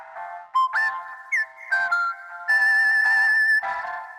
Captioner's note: whistle tune